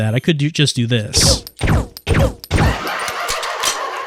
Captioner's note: silenced gunfire; crazed laughing